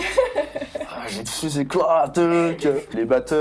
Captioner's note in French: rire